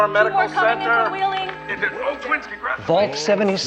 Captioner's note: operators yelling